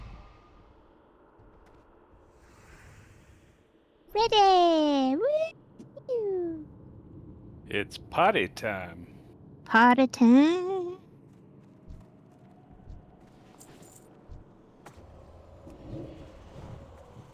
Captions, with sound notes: Ready. Woo-hoo. It's potty time. Potty time. [wind blowing]